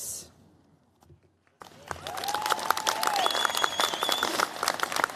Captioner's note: cheers, applause